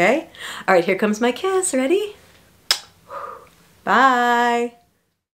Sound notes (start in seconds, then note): 2.6 smooch